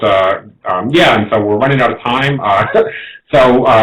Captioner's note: laughs